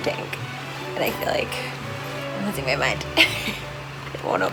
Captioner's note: laughs